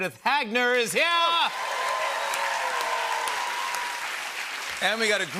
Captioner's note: cheers and applause